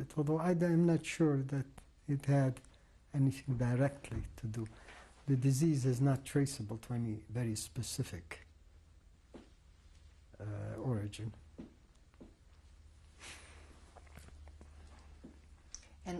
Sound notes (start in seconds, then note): 7.9 pauses for 3 seconds